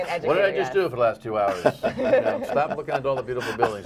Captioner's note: laughter